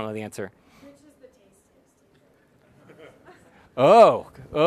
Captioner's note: audience laughs